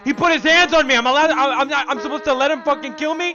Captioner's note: stutters